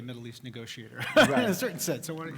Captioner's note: laugh